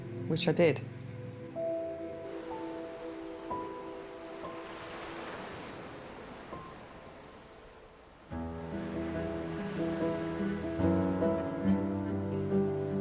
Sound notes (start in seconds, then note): 1.6 contemplative music; 1.6 water rippling; 8.4 dramatic music